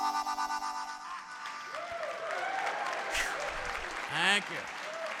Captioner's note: audience applauding